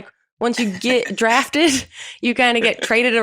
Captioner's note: laughs